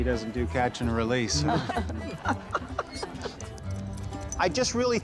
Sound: laughter

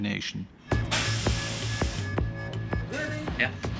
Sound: alarm ringing

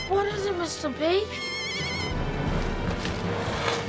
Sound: bird squawking

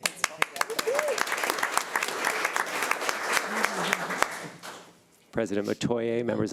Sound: audience applauding

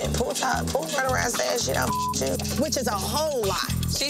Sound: beep

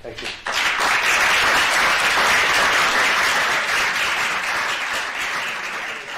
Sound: applause

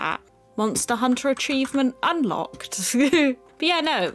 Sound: giggle

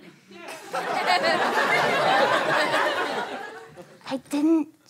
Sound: audience laughter

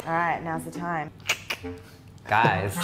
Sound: mouth click

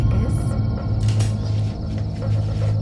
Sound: gun cocks

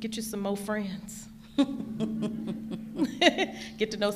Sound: laughing

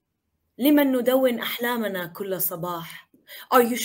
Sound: speaking in foreign language

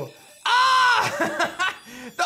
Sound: laughs

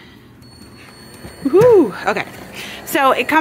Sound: machine beeps

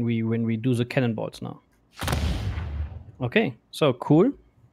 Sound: booming sound

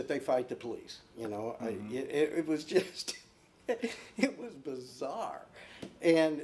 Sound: laughing

